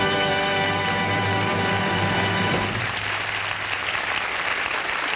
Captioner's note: audience applauding